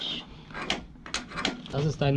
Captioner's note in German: kratzen